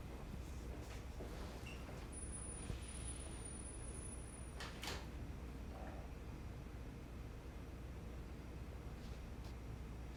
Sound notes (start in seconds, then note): none